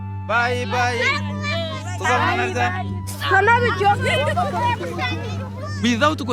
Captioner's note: people chattering